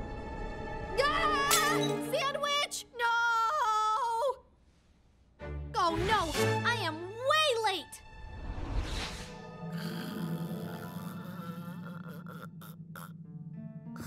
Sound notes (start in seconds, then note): 9.7 snoring